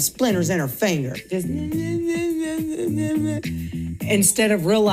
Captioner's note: imitates sobbing